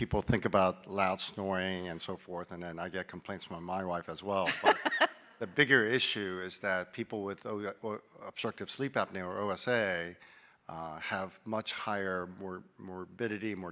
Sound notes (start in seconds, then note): 4.4 laughing